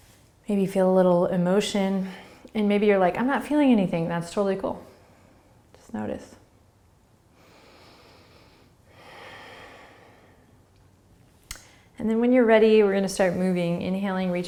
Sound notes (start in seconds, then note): 7.3 breathing